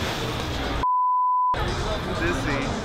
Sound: beep

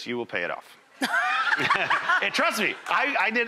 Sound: laughs

